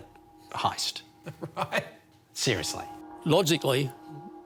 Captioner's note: laughs